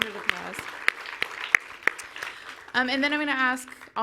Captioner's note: audience applauds